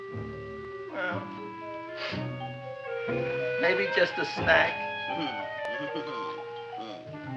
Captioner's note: Audrey Jr. laughing